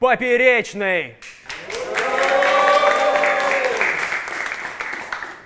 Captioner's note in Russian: Аплодисменты